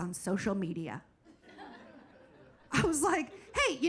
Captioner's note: audience laughing